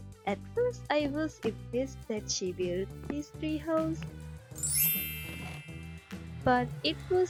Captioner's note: sparkles